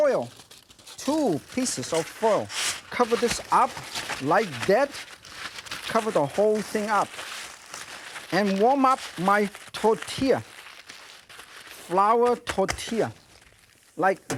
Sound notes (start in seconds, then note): none